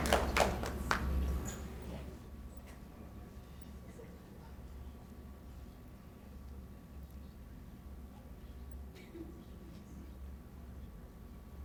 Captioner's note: applause